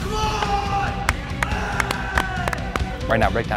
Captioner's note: shouts